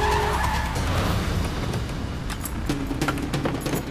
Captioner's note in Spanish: Claxon